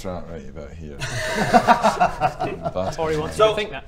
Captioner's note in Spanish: risas